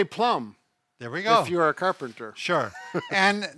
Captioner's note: chuckles